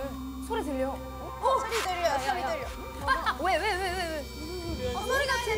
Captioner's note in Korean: 불길한 소리는 점점 가까워지고